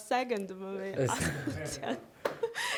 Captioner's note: laughter